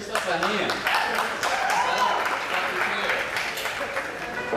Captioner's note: applause